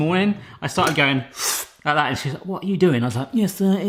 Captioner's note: slurps